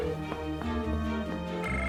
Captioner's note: phone rings